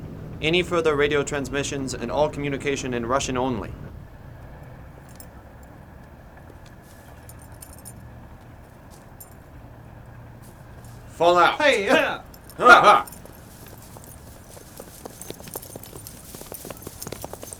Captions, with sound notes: Any further radio transmissions and all communication in Russian only. Fall out. (group hupping)